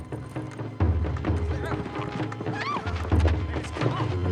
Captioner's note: nervous shouting